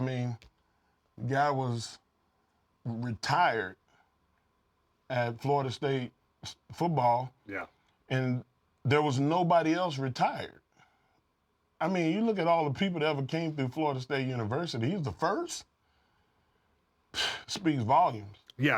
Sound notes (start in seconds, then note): none